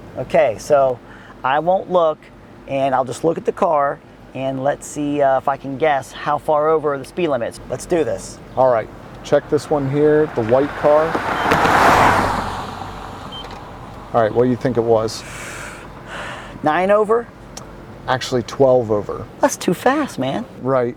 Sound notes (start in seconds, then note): 10.6 two beeps, car moving